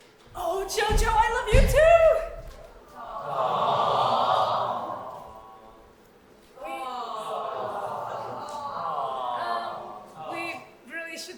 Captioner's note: audience awwws